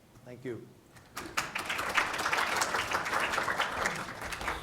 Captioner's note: applause